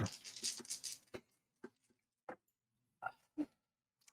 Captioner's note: dice rattling